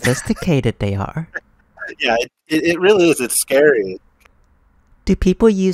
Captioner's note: laughs